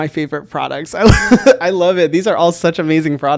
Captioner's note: laughs